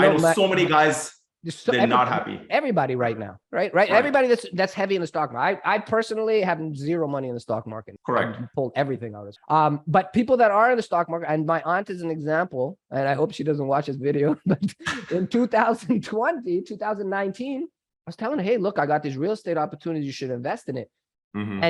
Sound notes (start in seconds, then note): 14.3 chuckles